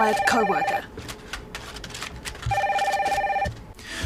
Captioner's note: phone continues ringing